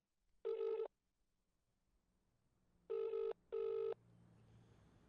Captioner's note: line trilling